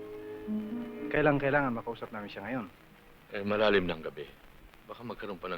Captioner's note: non-english speech